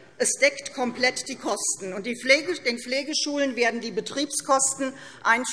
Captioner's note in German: none